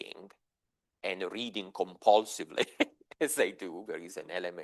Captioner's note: chuckles